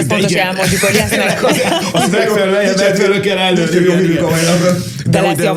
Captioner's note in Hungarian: nevetés